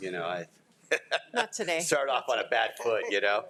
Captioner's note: laughs